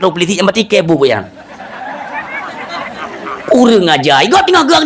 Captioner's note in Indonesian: tertawa